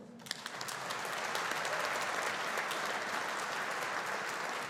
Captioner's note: audience applauding